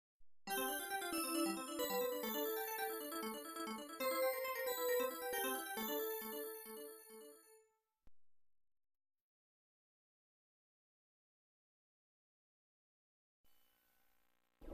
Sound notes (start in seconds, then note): 0.4 32-bit video game music; 8.7 silence